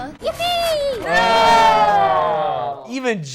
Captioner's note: groans